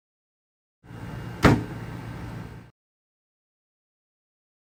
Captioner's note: television thuds